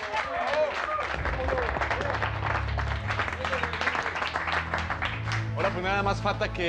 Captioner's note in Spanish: aplausos